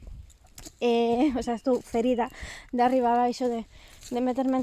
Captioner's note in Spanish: con una risa